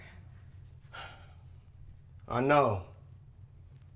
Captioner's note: sighs